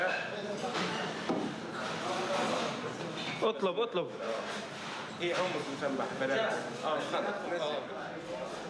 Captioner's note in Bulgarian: разговор на арабски